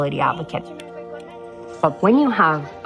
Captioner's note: speaking foreign language